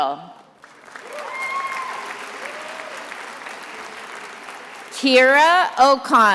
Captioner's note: attendees applauding and cheering